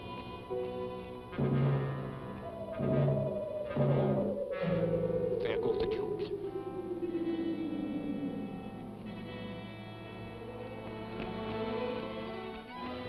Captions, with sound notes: (eerie warbling) - There go the jewels. (suspenseful music)